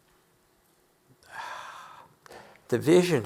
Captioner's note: none